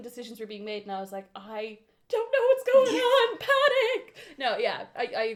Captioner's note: high pitch panic voice